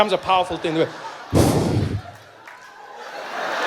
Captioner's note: breathing out noisily